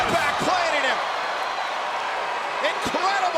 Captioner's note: audience cheering